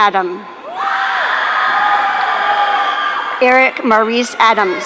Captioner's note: audience cheering